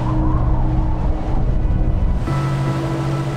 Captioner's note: howling wind